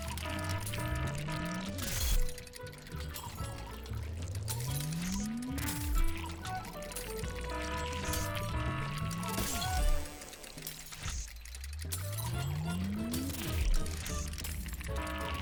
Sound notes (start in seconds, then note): 0.0 glass shattering; 0.0 machine zapping; 0.0 alarm blaring; 0.8 machine zapping; 4.9 glass shattering; 4.9 machine humming, zapping; 7.8 alarm blaring; 9.3 glass shattering; 12.6 glass shattering; 12.6 machine humming, zapping